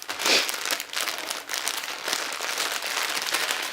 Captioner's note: crunching cellophane